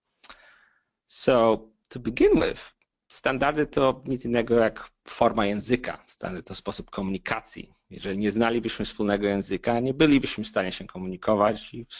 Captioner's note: non-english speech